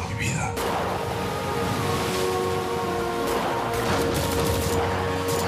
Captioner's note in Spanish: Disparos